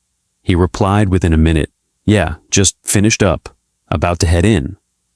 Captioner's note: speech